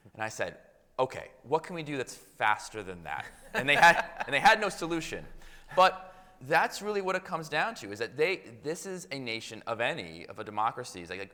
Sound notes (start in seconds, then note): 3.2 audience laughing